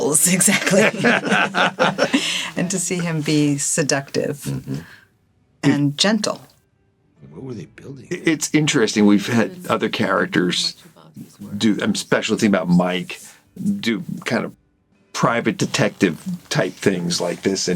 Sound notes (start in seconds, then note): 0.3 all laughing